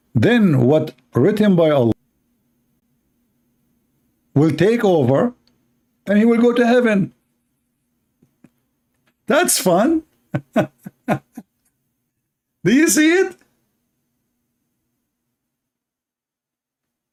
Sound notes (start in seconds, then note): 10.3 Ketawa